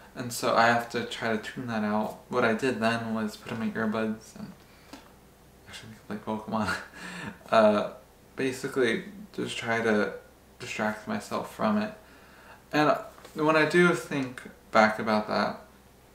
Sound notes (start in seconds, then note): 6.6 laughs